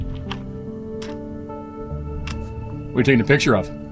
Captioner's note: camera clicking